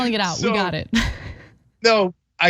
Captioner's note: laugh